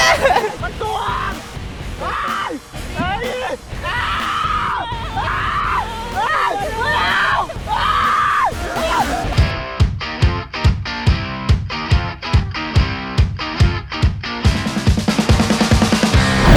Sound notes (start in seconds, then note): 1.9 this episode will feature screams